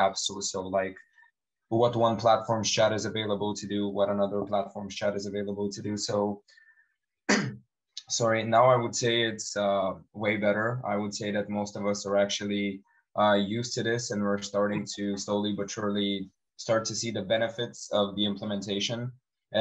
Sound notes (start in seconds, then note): 7.3 coughing